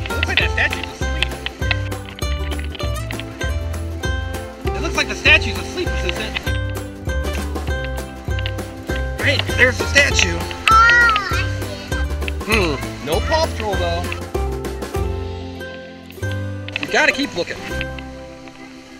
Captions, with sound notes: Looks like that statue's asleep. It looks like the statue's asleep, Assistant. Hey, there's the statue. - Ah, I see it. - [Voiceover] Hmm, no Paw Patrol though. You gotta keep lookin'.